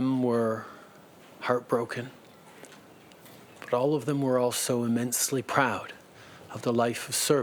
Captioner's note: speaking French